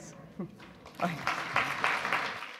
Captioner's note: audience applause